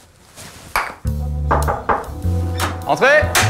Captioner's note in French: toc toc toc